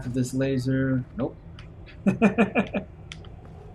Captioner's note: chuckles